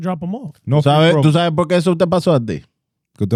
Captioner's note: speaking In Foreign Language